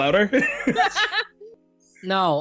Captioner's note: all laughing